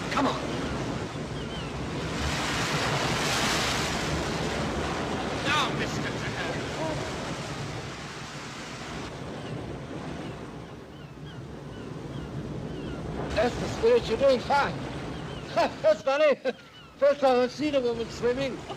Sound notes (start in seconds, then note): 1.2 wind & waves; 7.4 wind & waves; 9.0 waves crashing & birds squawking; 15.4 laughing